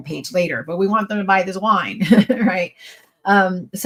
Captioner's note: laughs